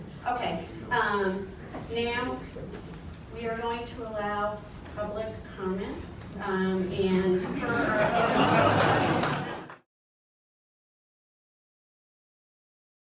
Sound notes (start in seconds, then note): 7.5 audience laughing